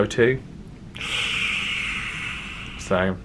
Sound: sucks teeth

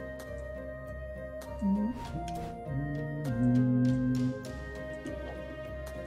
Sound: humming along

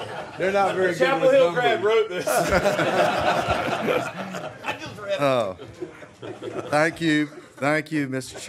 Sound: laughter

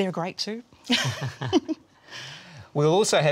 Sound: laughter

